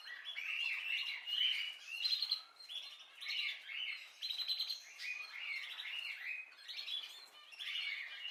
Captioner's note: birds singing